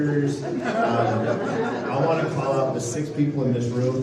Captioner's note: laughter